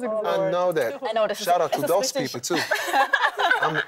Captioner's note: laughter